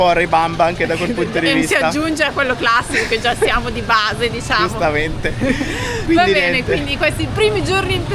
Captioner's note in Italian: risate